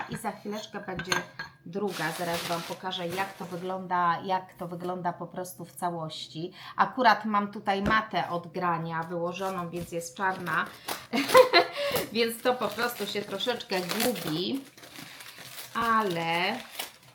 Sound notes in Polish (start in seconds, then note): 11.1 śmiech